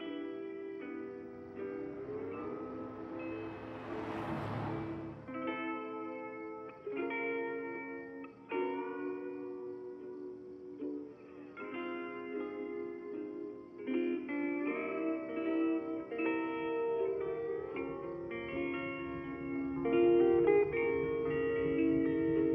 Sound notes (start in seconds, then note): 0.0 soft Hawaiian music; 3.8 cars whooshing; 7.1 soft Hawaiian music